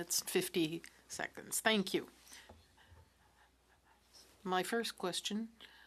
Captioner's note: speaking French